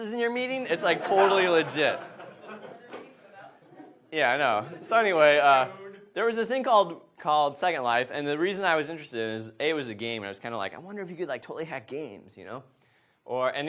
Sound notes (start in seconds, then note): 0.6 audience laughs; 2.9 speaking way from mic